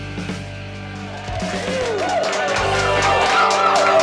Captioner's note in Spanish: vitoreo y aplausos